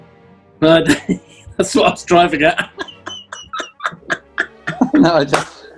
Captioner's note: laughing